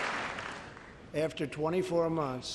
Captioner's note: applause